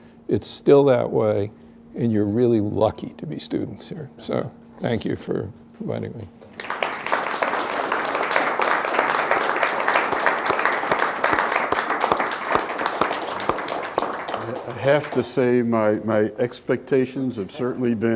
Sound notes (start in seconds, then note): 6.7 applause